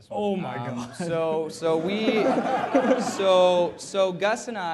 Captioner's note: laughter